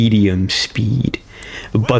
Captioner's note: inhales Oxygen